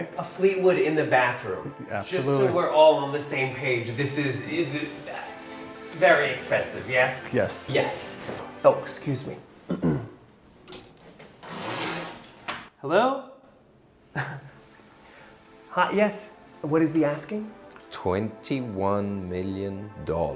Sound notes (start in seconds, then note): 9.6 clears throat; 14.1 chuckles